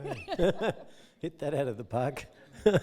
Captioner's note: both laughing; laughing